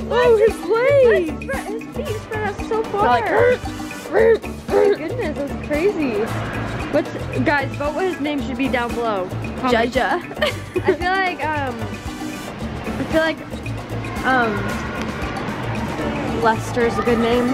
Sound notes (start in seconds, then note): 10.1 laughs